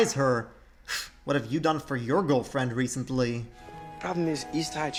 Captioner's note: scoffs